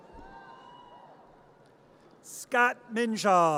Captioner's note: audience cheers